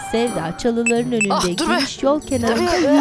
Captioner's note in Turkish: Mesaj zili sesi